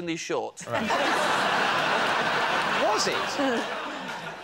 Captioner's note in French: rires